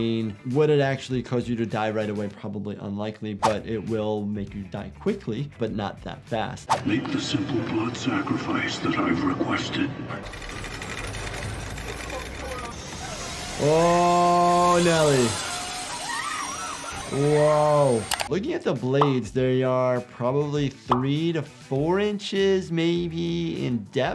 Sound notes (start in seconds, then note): 6.7 voiceover; 10.2 chains pulling